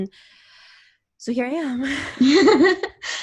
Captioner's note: laughs